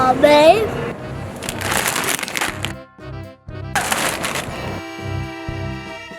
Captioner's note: plastic crinkling; curious music